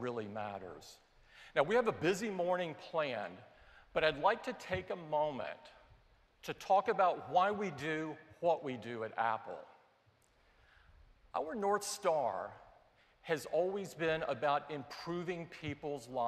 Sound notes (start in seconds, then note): none